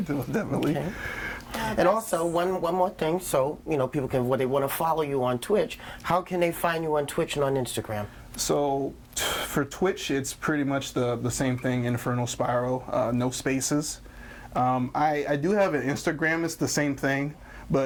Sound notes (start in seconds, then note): none